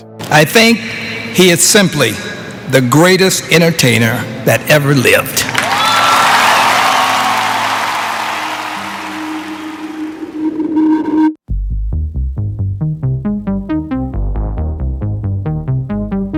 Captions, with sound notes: I think he is simply the greatest entertainer that ever lived. (crowd cheers) (dramatic music)